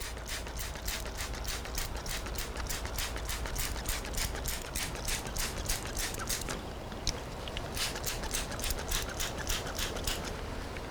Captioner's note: spraying sounds